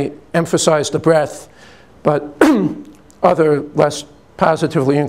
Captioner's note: clears throat